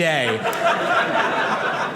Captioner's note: audience laughing